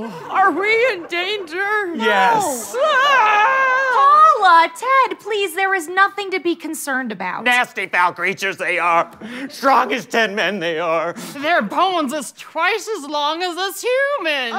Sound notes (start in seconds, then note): 1.9 wailing